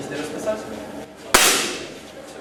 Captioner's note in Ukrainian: звук пострілу